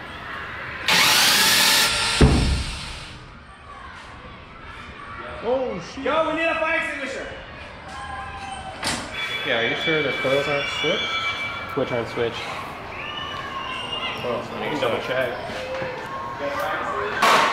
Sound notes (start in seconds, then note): 0.8 motor revving; 0.9 loud bang